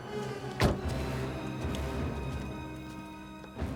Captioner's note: door thuds